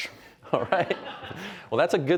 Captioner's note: chuckling